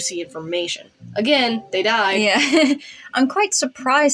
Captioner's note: laugh